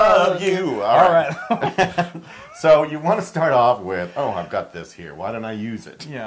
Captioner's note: laugh